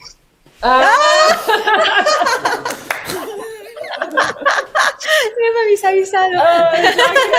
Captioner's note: laughs